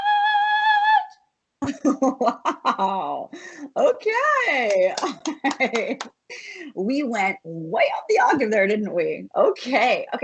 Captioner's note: laughs